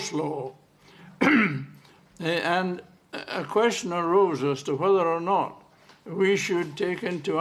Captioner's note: clears throat